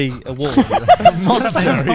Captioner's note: all laughing quickly